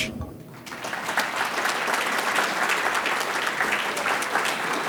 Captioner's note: audience claps